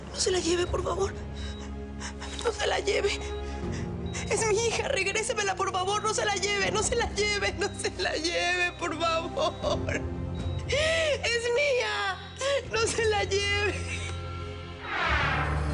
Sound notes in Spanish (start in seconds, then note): 10.6 Sollozos